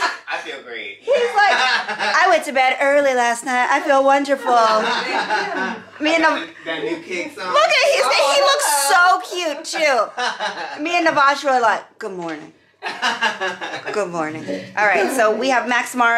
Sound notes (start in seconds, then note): 0.0 laughs; 10.2 laughs; 11.7 murmurs; 12.8 laughs